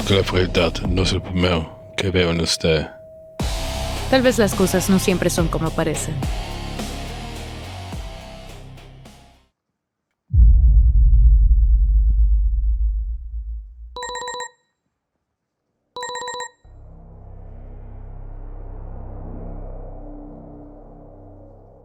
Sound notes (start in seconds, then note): 10.4 ominous sounds begins; 13.9 alarm ringing; 16.7 ominous sounds continue